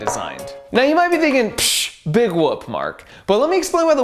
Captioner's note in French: Pff